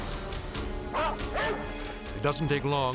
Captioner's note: dramatic music; dog barking